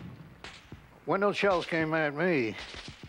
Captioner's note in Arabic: إطلاق النار من البنادق